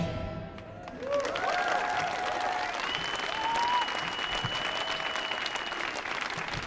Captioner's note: audience cheering and applauding